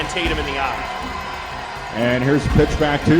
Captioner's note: crowd Noise